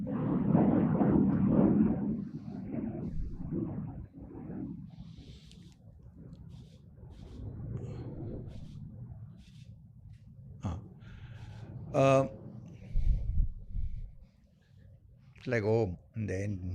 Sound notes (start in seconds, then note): 2.2 thunder